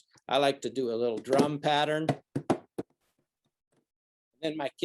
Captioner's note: drums hands on desk